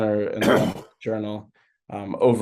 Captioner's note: coughing